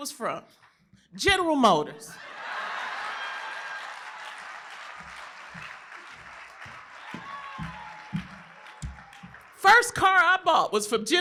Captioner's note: applause